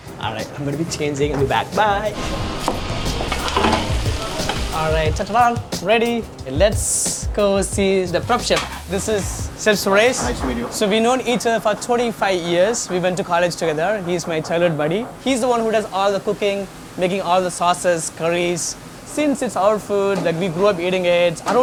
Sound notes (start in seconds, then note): 3.1 knife chopping; 3.1 pan sizzling